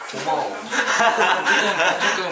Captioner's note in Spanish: Jajaja